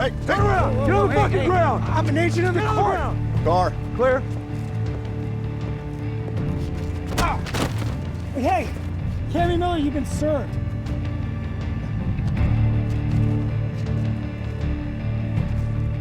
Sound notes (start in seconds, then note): 7.1 grunts; 11.9 dramatic music